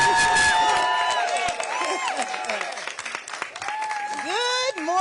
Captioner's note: applause